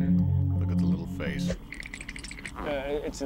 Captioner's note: teeth chattering